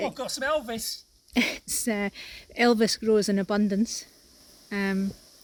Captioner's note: laughing